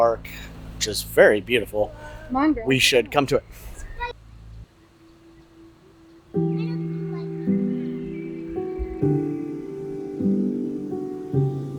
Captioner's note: soft music; water rushing